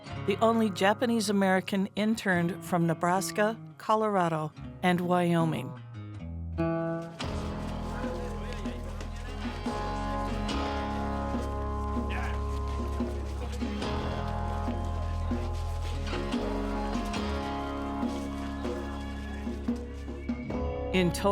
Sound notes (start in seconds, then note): 6.4 pensive music; 7.3 people chattering